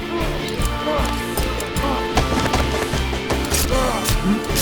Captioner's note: knife clanking; knife thudding; both grunting